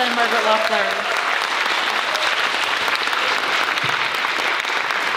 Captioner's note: audience applauds